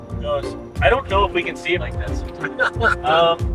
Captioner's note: laughter